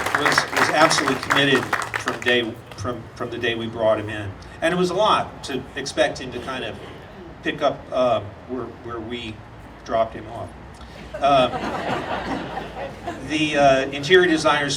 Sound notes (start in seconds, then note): 11.0 audience laughing